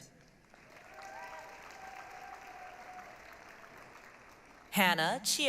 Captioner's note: applause, cheering